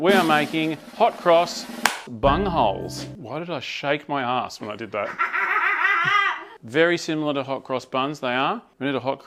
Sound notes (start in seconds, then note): 5.2 cackles